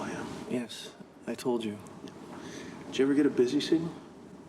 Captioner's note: none